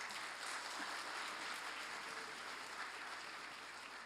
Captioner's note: applause